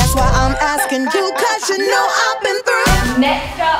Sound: alarm beeping

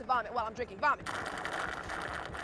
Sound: slurping

